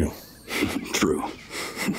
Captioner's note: chuckles